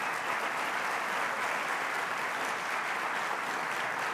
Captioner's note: applause